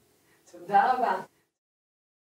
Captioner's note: Hebrew